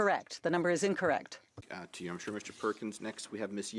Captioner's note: speaking French